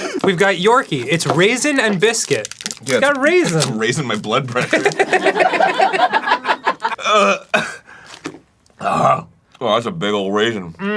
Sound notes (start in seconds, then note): 8.8 deep growl like a balrog